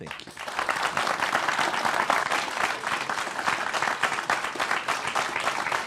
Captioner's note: applause